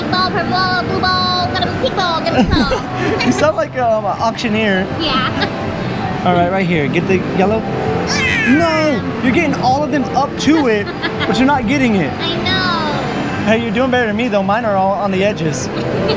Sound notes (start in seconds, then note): 2.3 laughter; 8.1 groans; 15.7 laughs